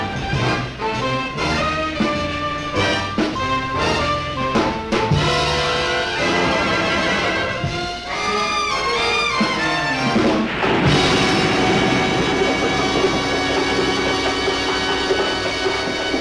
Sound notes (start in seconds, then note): 4.7 jazzy orchestral music crescendos; 9.2 waves crashing